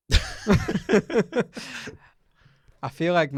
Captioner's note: laughs